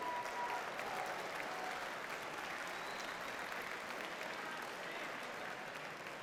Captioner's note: audience cheers and applauds